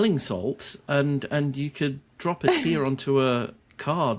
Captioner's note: chuckles